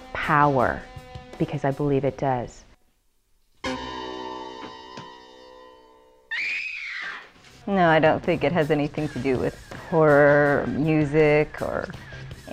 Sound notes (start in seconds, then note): 3.7 scary music playing; 6.2 screaming